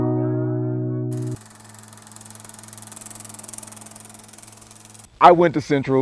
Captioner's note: old film projector